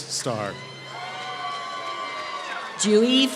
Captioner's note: applause